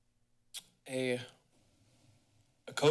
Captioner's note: clicks tongue